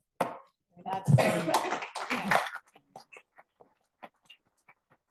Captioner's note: audience applauding